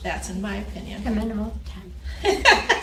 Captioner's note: woman murmurs; instructor laughs